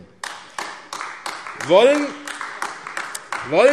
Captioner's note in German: Beifall AfD